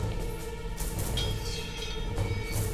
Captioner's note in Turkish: Kılıç çekme sesi